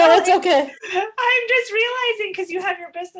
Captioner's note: laughs